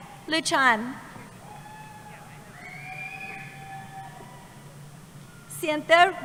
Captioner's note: cheering